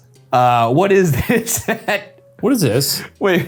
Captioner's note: laughing; chuckling